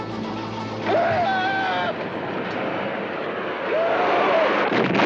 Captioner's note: yelling